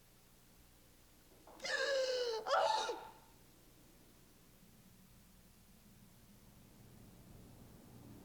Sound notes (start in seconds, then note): 1.6 Margaret crying